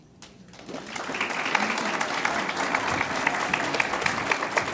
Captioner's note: audience applauds